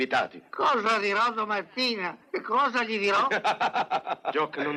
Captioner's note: laughs